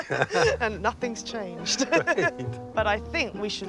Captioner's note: laughs